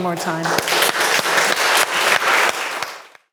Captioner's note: audience clapping